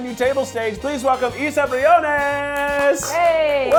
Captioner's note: claps